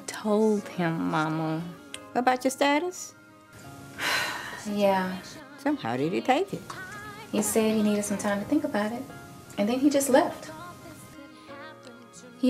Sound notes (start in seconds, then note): 3.9 sighs